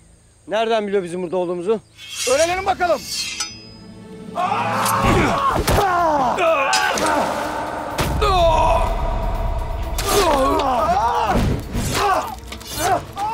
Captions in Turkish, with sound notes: Nereden biliyor bizim burada olduğumuzu? -Öğrenelim bakalım. (Kılıç sesleri) (Dövüş sesleri) (Kılıç sesleri)